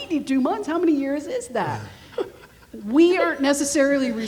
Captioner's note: laughing